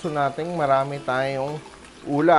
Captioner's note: sizzle